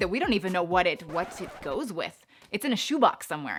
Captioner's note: record scratching